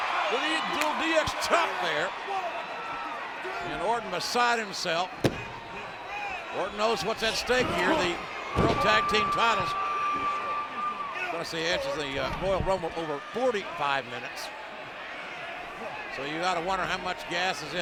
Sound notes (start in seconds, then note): 0.0 crowd cheering; 5.2 hands thudding